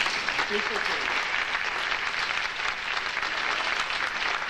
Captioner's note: audience applauding